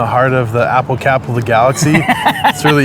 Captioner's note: laughter